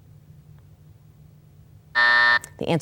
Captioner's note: buzzer buzzes